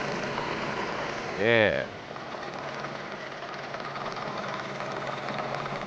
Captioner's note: machine mixing liquids